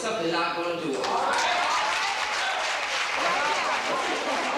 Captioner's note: cheering